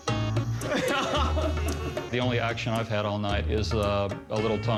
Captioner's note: laughs